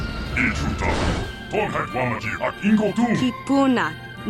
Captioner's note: this droid is speaking a language you do not recognize